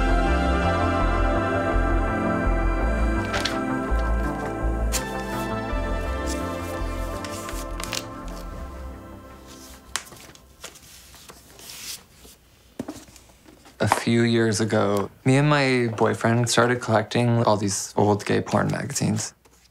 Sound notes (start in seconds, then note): 3.1 magazines rustling; 12.7 pages flipping